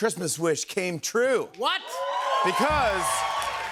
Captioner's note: cheers and applause